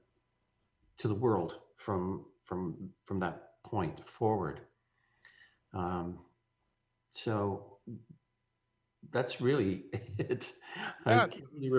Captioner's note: laughing